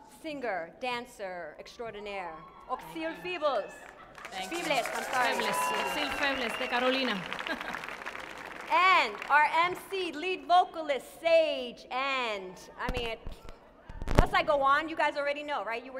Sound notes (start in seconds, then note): 6.0 woman speaking in Spanish